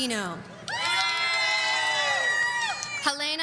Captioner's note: audience cheering